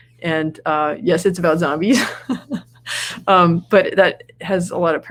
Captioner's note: laughs